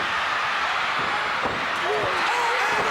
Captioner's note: crowd cheering